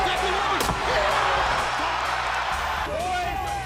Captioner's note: crowd cheering